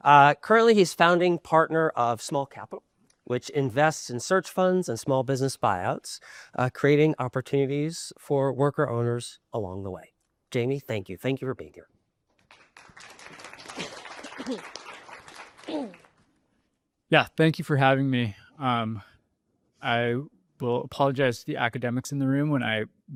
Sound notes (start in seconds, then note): 12.4 applause